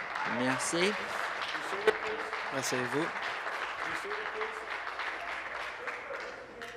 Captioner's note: applause